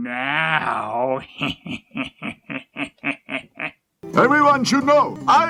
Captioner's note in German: imitiert Wabuus Lachen